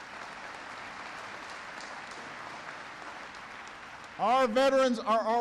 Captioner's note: applause